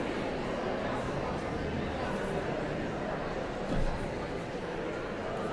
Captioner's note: audience chattering continues